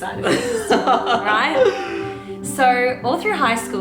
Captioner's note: laughing